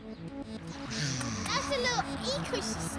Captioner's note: makes a zooming noise